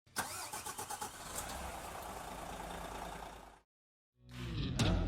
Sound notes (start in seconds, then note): 0.1 engine cranks